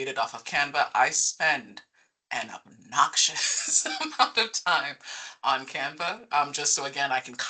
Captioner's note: laughing